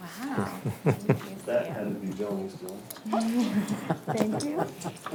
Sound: man laughs

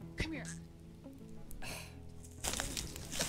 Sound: Bundo catches his cloak and then sighs

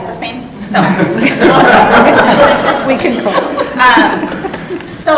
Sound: laughing

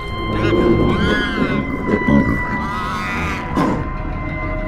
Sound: creature squealing

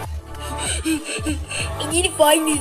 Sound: gasping

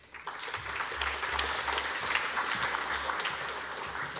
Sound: audience applauding

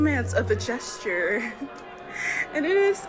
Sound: chuckles

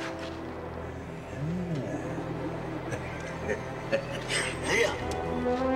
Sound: chuckling

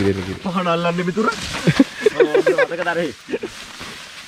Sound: laughing

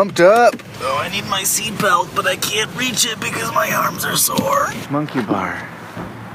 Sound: groaning in pain

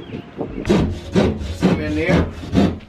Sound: sawing

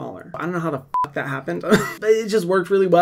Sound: beep

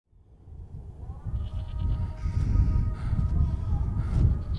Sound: heavy breathing, while blindfolded

